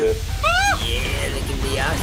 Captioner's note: shrieks